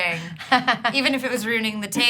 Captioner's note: laughing